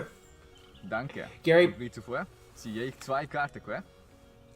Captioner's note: low german accent